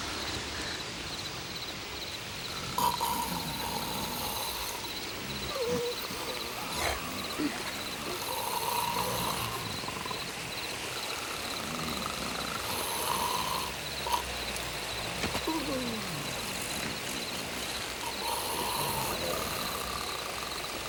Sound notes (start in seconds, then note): 2.6 Bruto snores; 12.7 Bruto snores; 18.1 Bruto snores